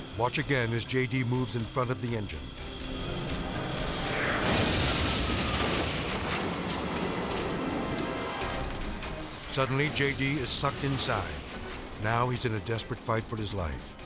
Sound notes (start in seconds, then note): 3.9 explosion booms